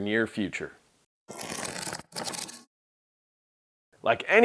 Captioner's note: scrapping sound